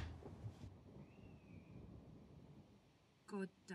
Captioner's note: cupboard door slams open; distant thunder